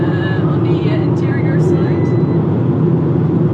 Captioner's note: peep sound